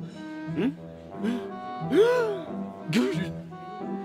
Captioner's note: gasps; inhales deeply; spluttering